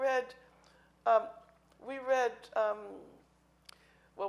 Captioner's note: speaking in foreign language